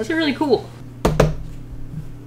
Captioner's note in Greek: Χτύπημα στο tablet